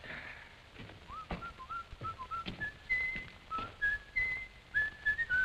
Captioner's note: whistles